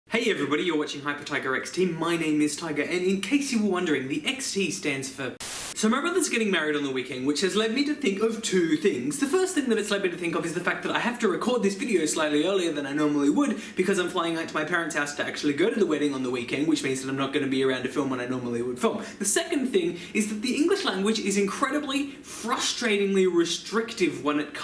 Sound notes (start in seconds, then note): 5.3 Static